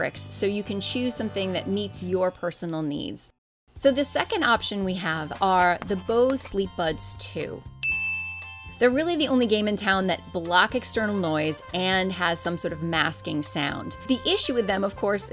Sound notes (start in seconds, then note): 7.8 bell rings